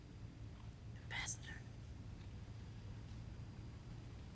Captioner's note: whispering